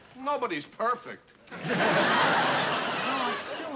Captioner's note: laughter